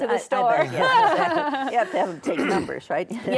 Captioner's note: laughs